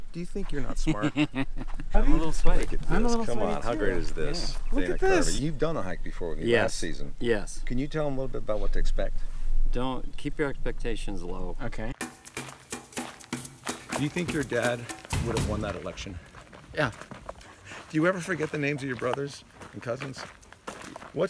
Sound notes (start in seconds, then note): 0.8 chuckles; 11.9 tropical music